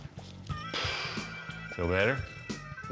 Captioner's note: exhales